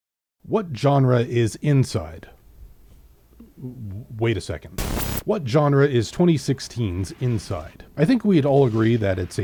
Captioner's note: glitches